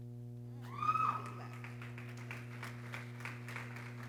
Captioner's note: people cheering